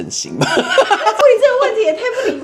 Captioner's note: laughs